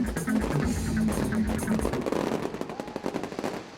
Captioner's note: fireworks exploding